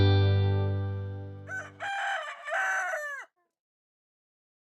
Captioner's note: rooster crows